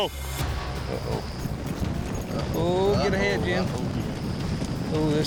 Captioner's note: hoofbeats